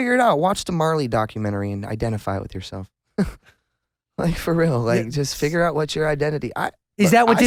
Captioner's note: laughs